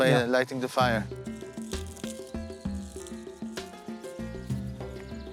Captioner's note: sticks crackling